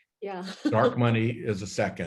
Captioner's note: laughs